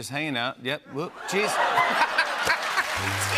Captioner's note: laughter and applause